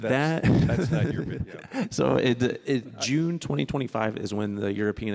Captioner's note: laughing